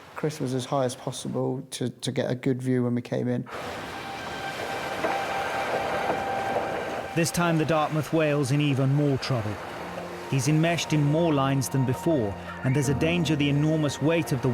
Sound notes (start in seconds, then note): 4.8 tense music; 4.8 water sloshing